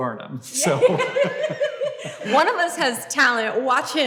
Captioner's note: Hank and Grace laugh